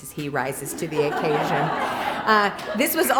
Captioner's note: laughter